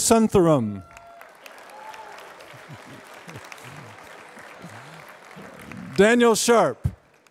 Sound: applause

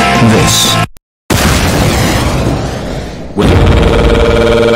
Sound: rocket launcher sfx

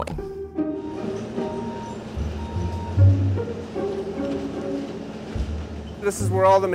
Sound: gentle music; truck beeping

